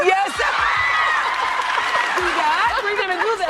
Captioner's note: audience cheers and applauds; Oprah laughs